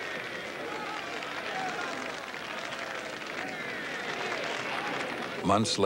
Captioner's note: cheering and applause